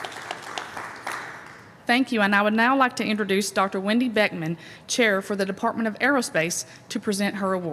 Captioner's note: applause